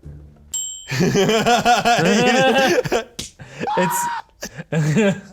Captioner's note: laughing